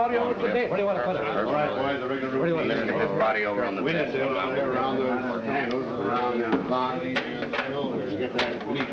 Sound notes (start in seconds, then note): 4.1 indistinct chatter